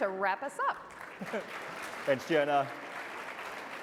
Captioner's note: audience applauding